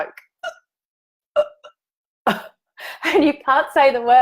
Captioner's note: mimics choking